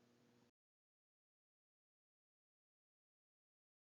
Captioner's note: pause